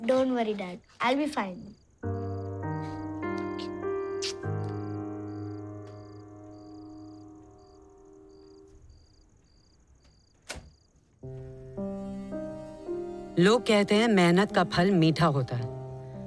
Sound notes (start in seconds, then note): 4.1 kisses; 9.9 door closes